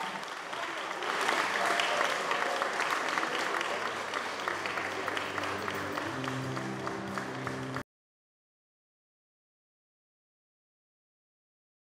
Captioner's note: applause